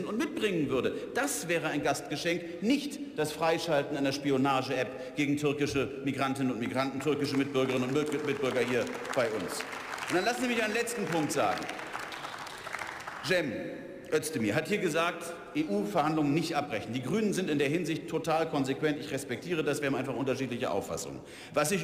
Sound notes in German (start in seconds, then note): 10.0 Beifall